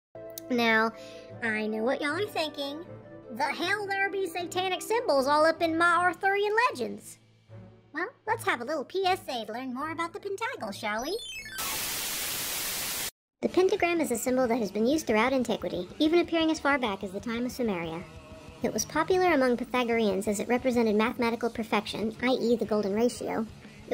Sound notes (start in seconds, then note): 11.1 VHS dissonance